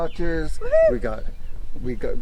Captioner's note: cheering